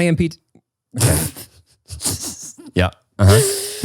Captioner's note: laughs